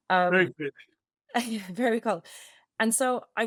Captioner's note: laughing